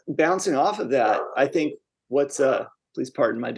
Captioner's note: dog barking